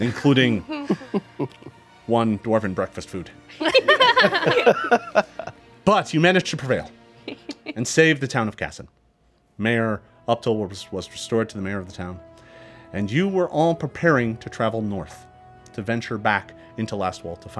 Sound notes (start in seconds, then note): 3.6 group laughing